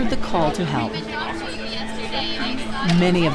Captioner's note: people chattering